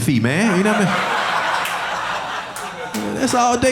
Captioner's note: audience laughing